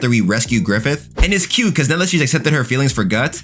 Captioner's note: air whooshing